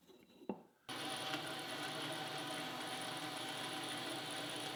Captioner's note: machine whirs